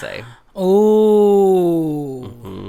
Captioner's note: gasp